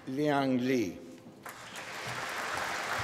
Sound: applause

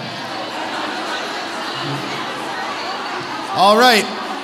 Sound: audience chattering

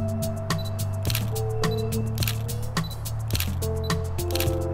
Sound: camera shutter

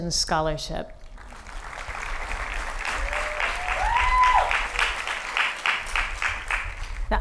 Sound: applause

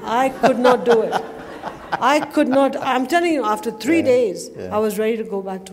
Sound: laughter

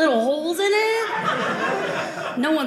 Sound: audience laughing

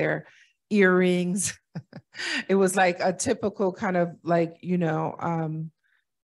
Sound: laughter

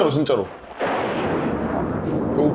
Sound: rumbling

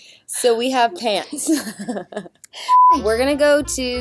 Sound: laughs

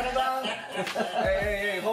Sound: men laugh

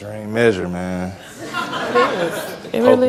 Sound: audience laughs

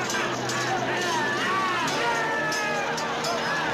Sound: laughing

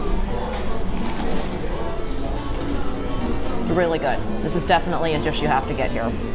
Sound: Crunch

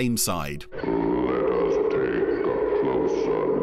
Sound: ominous Voice

